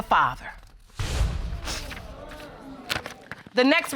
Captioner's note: audience exclaiming